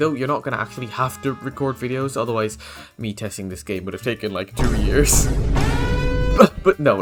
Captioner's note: boom